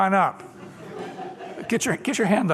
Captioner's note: laughter